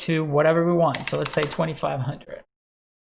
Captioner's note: keyboard clanks